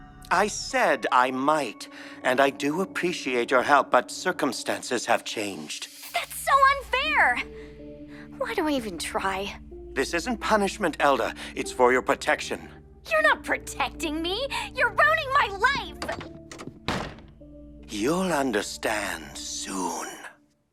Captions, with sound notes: I said I might. And I do appreciate your help but circumstances have changed. That’s so unfair! Why do I even try? This isn’t punishment, Elda. It’s for your protection. You’re not protecting me! You’re ruining my life! [door slams shut] You’ll understand, soon.